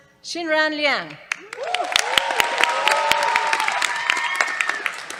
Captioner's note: cheers, applause